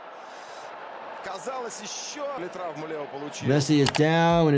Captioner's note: commentator talks in foreign language